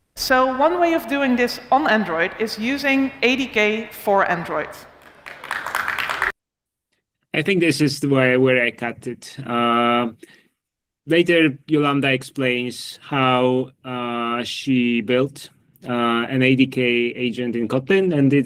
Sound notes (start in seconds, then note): 4.7 applause